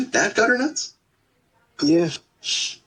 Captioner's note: busy hospital